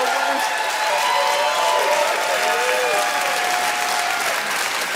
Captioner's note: audience cheers loudly